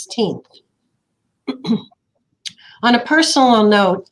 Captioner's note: clears throat